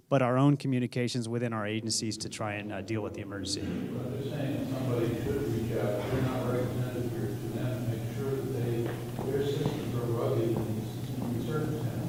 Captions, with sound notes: but our own communications within our agencies to try and deal with the emergency. (speaking off microphone)